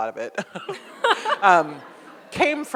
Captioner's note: audience laughs